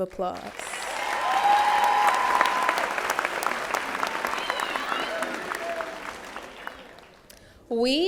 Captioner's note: applause